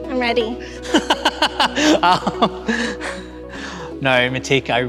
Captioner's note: laughing